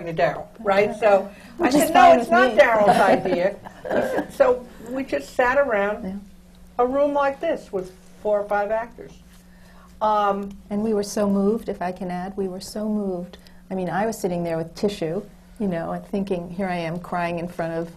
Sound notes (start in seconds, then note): 2.6 laughs